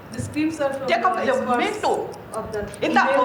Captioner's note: non-english speech